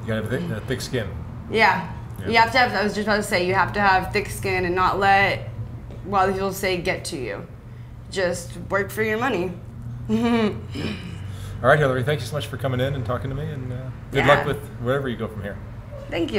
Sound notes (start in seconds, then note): 10.1 chuckles